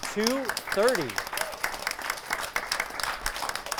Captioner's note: applause